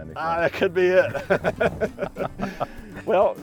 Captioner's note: laughing